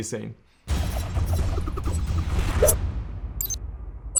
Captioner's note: booming